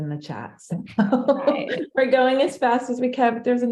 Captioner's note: laughs